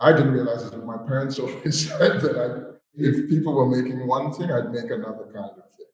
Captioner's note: chuckles